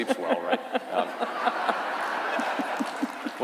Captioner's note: laughter